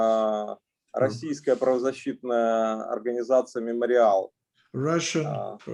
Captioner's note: speaking Russian language